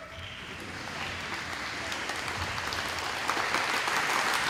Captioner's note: audience applauding